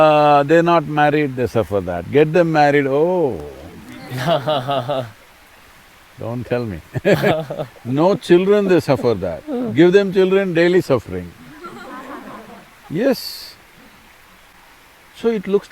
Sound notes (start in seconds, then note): 6.6 both laugh; 6.8 laughter; 13.9 laughter